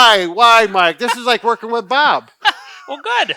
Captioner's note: laughs